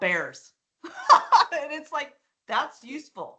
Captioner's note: laughing